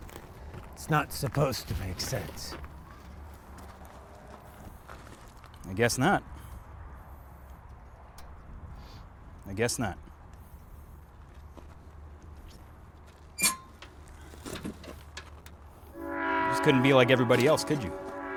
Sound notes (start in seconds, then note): 13.4 wheelbarrow squeaks; 15.9 train horn blowing faintly